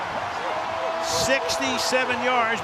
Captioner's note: cheering